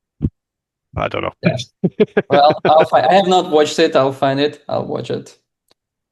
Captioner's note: laughs